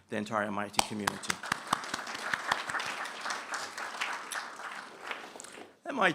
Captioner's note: applause